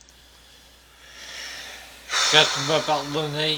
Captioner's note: sigh of discouragement